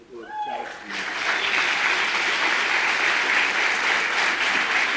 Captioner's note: audience applause